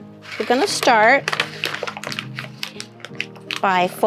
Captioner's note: paper rattling